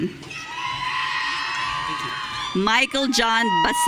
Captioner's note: audience cheering